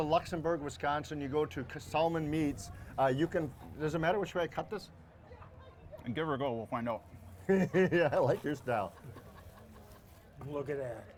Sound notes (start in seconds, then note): 7.5 laughs